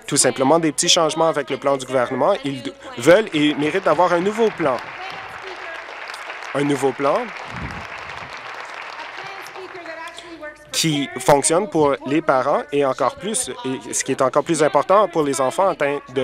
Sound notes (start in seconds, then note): 7.5 applause